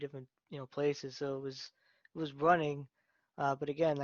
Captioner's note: none